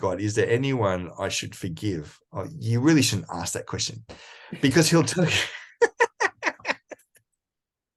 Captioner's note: laughs